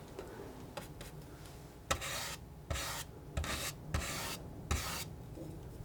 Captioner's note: scratching